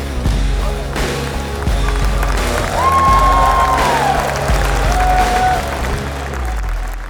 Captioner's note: crowd clapping and cheering